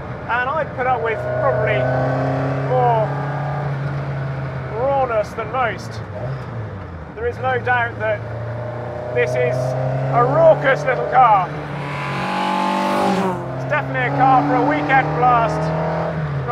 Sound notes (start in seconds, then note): 12.2 car engine revs